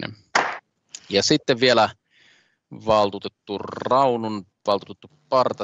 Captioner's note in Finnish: nuijan kopautus